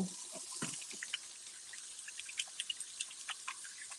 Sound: water running

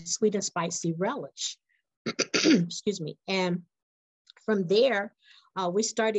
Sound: cough

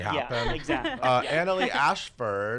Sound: laughs

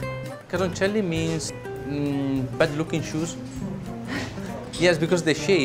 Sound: speaks in Italian

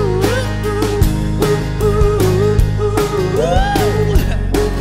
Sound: chuckles

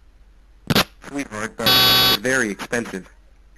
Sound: glitching

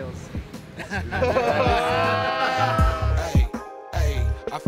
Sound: group laughs

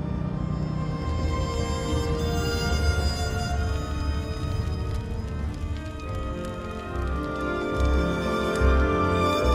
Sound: A sound of fire spreading

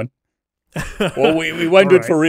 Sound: laughing

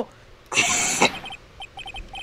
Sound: medium laugh

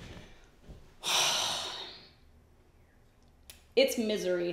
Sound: sighs

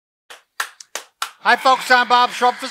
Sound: clapping loudly

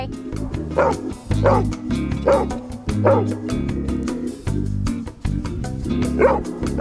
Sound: dog barking

